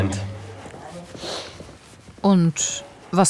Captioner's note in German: Schniefen